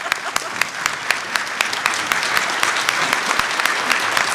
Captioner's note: applause